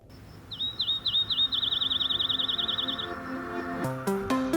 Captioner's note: morning bird chirping